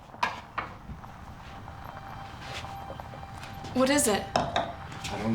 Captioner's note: engine rumbles; suspenseful music